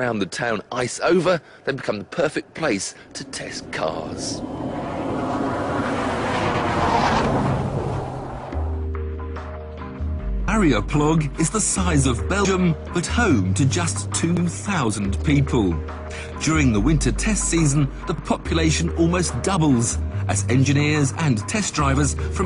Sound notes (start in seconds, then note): 4.8 car motor roaring; 8.6 soft music